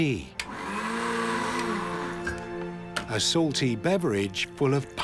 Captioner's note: blender whirring